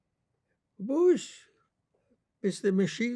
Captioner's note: non-english